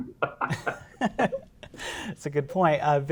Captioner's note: chuckling